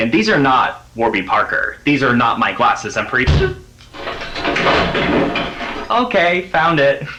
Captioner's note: smack